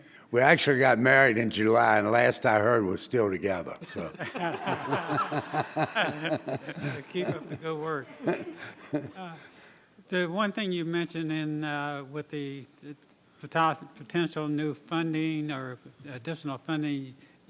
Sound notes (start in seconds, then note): 3.8 laughter